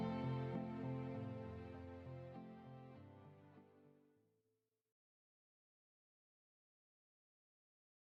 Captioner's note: silence